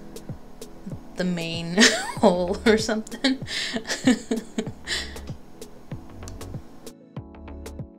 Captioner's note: immature laughing; immature laughing cont